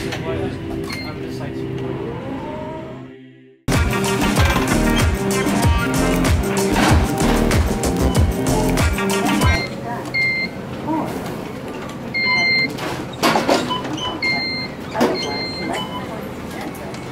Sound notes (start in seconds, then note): 10.0 beeps; 12.7 clanking noises